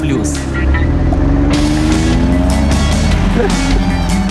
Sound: sound of engine

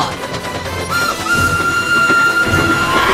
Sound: lady whistling; tie fighter screech

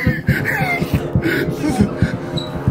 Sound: lachen

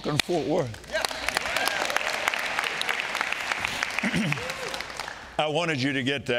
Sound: audience cheering and clapping

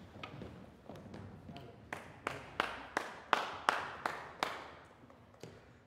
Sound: applause

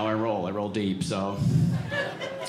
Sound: audience laughing

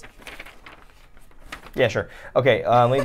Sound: paper rustles

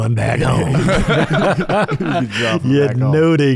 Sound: everyone chuckling

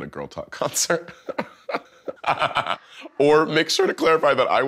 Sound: chuckles

